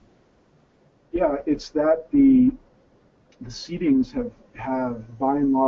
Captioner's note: voiceover